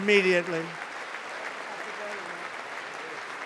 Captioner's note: applause